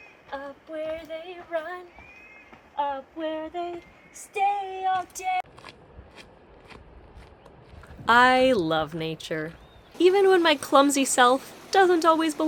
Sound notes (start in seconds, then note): 5.4 sound of feet crunching on gravel